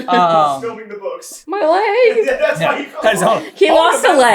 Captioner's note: laughing